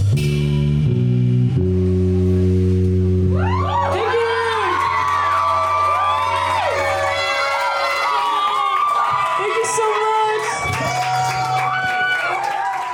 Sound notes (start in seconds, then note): 7.1 cheering